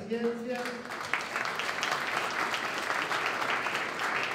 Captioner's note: applause